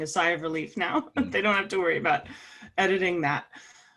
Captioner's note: laugh